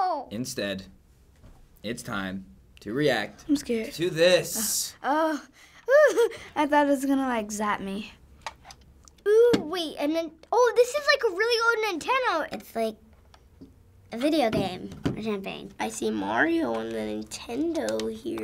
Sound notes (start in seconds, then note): 5.8 giggles